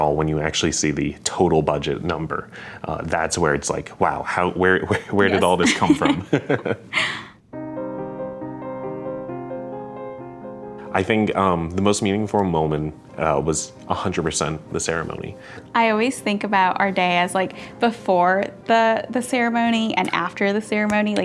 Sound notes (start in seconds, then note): 4.9 both chuckling; 7.6 gentle music